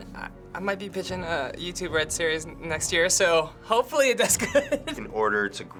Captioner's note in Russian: смеется